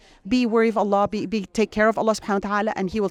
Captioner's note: speaks Arabic